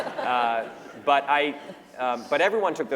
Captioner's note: laughter